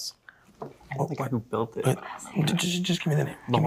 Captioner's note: students whispering